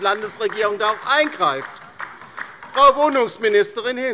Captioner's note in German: Beifall bei der LINKEN